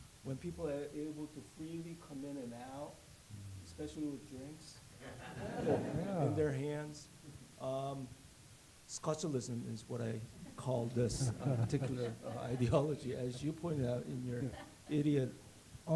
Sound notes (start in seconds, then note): 2.9 laughter